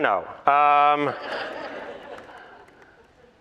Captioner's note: laughter